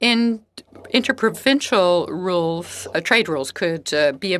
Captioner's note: speaking French